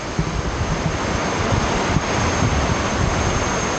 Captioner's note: heavy rainfall